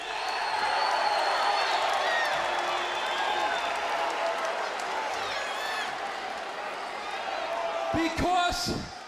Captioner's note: crowd cheering